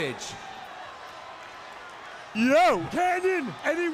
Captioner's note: crowd chatter